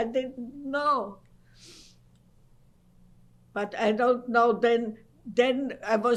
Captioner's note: pauses for 3 seconds